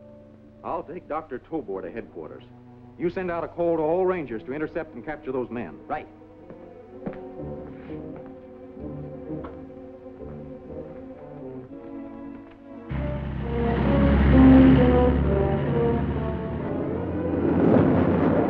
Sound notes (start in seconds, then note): 9.0 tense music; 12.6 engine rumbles